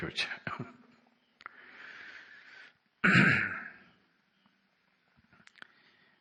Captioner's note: laughter